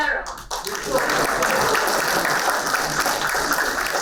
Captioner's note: applauding